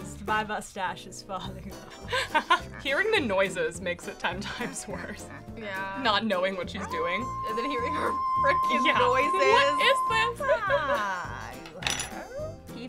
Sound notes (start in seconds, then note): 2.0 laughing; 6.6 whining; 11.7 laughs